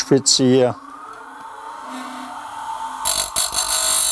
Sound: saw starts up

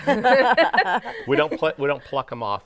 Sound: all laughing

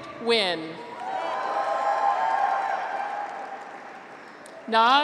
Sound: graduates cheer

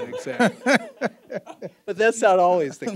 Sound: all laughing

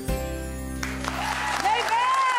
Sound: audience cheering

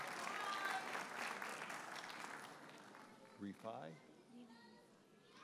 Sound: audience cheers and applauds

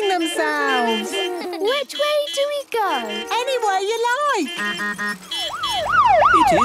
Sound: laughter; honking, siren wailing

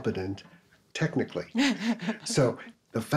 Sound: laughs

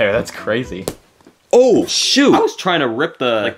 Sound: tag snaps

